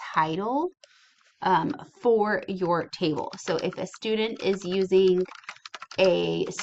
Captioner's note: typing